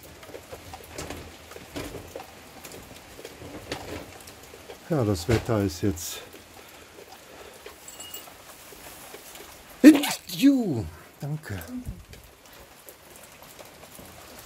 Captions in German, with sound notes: Ja, das Wetter ist jetzt, *hatschi*, danke.